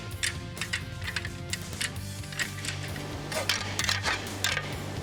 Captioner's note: animal calling